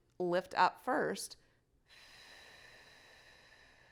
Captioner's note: exhales slowly